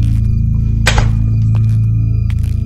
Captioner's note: Door closes